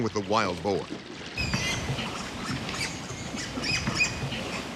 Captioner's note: boar squealing